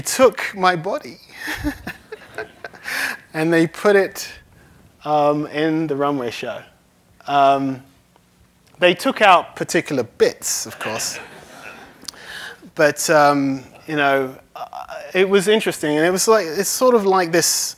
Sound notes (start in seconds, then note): 1.4 laughs; 12.8 laughter